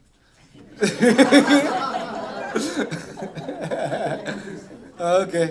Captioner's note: laughter